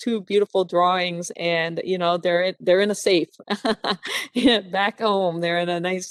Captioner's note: laughing